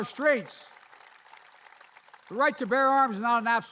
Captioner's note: applause